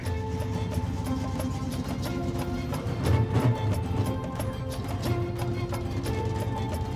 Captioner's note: engine rumbling